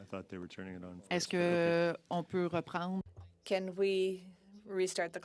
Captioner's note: speaking French